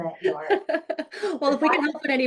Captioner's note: laughing